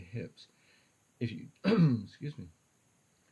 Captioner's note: ahem